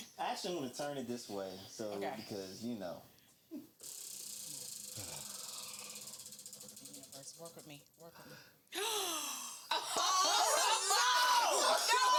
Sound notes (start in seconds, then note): 3.9 crickets chirping; 8.7 gasps